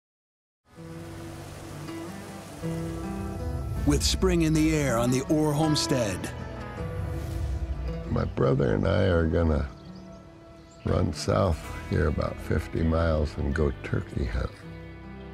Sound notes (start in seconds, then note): 0.6 quiet music playing; 1.2 water rushing